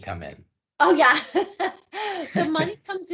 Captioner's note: laughing